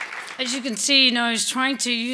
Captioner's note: applause